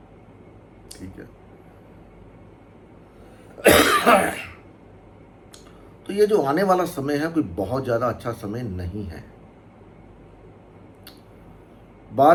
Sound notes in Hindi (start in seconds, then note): 3.5 खांसने की आवाज़